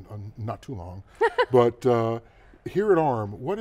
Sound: laughing

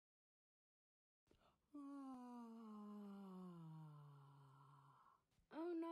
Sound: Humpty yawns

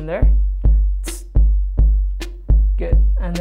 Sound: imitates snare

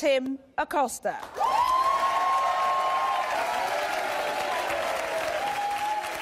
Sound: audience cheers and applause

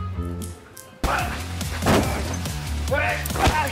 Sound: lots of grunts, thuds, and other loud noises

